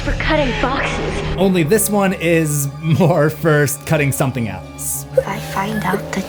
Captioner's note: laughter